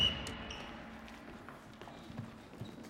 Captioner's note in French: coup de sifflet